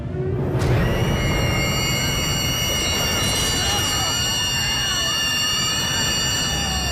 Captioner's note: siren screeching; dramatic music